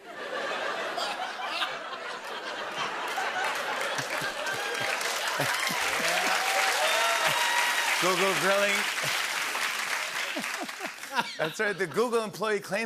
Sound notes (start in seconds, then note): 0.0 laughter; 4.2 cheers and applause